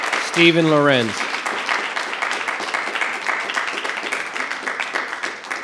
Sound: audience applause; audience applause continues

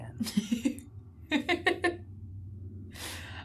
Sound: laughs

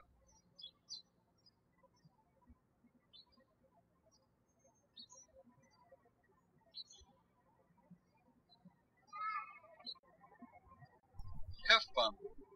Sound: birds chirping

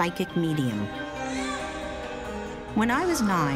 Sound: baby cries

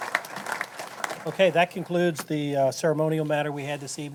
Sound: applause

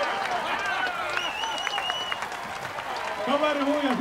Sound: laughter and applause, cheering; speaking in Finnish

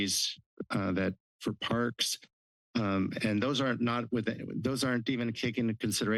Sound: stutters

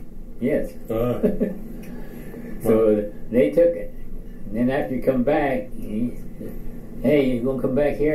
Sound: chuckles

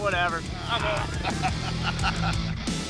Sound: laughs; energizing rock music

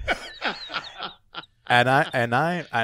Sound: laughs

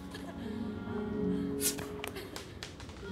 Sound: air hisses

